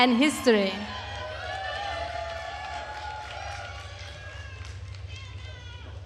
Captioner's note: attendees cheering and applauding